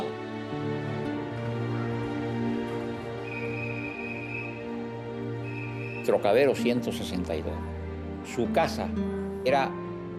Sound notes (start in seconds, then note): 2.8 whistle blowing in distance; 6.2 speaking Spanish